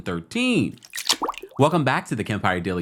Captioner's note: water drips